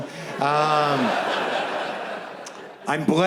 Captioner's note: audience laughs